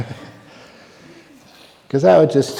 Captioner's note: laughter